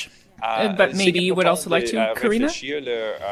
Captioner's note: speaking French